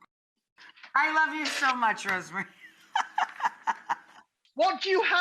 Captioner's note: laughing